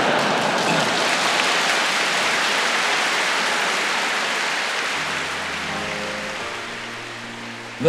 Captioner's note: laughter & applause